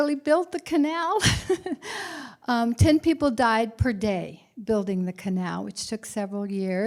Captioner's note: laughter